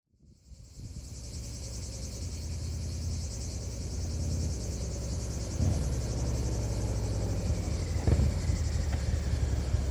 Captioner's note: wind blowing